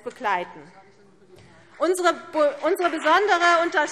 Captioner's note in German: Beifall CDU und BÜNDNIS 90/DIE GRÜNEN